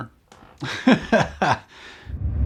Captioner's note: laughs